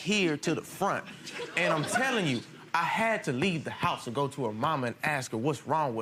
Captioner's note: crowd laughs